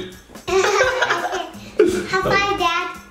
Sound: laughing

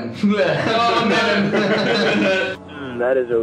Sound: laughs

